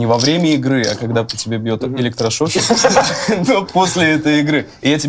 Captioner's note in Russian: смех